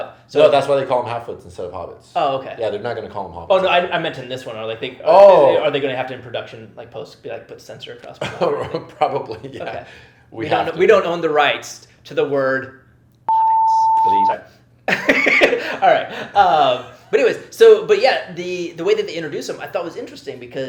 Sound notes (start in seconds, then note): 13.2 beep